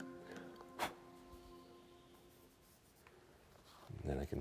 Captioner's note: blowing